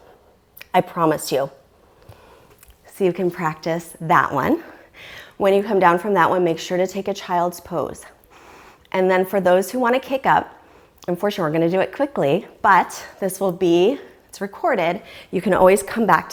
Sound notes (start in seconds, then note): 12.1 deep breathing sounds